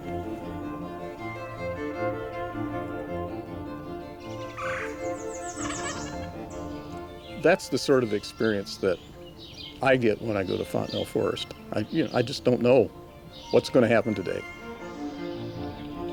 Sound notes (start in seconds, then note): 0.1 upbeat music; 4.2 bird squawking; 15.6 upbeat music